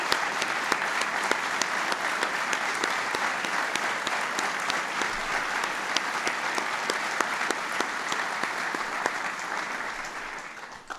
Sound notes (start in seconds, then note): 0.0 applause